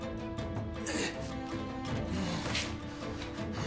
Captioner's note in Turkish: Müzik - Hareketli; İnleme sesi